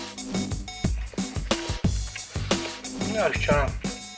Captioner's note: nom